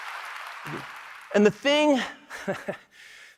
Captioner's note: applause